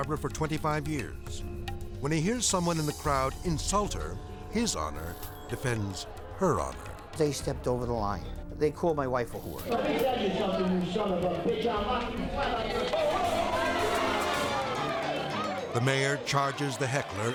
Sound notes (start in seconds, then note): 13.9 crowd shouting; 13.9 dramatic music